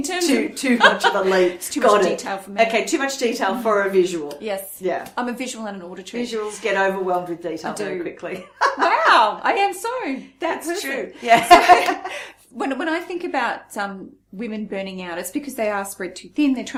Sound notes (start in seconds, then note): 9.1 laughs; 11.8 laughs